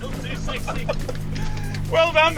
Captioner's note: both laughing